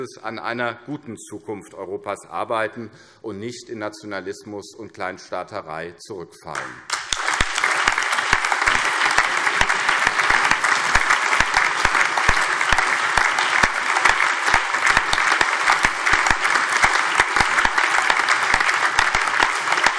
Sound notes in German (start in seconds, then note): 6.5 Allgemeiner Beifall